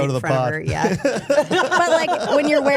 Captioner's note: everyone laughing